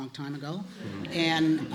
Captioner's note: laughter